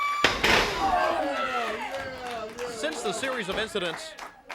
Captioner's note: crowd cheering